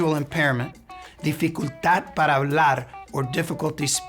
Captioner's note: speaking in Spanish